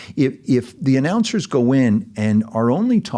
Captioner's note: none